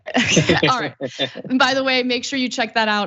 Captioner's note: laugh